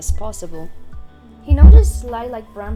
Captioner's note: LOUD mic bump